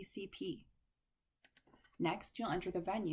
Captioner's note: click